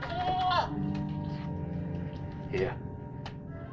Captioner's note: goat bleating